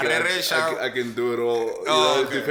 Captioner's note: laughing